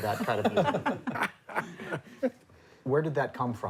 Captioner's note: laughter